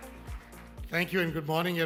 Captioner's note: audience applause